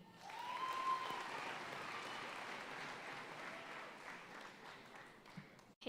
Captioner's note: audience cheering and applauding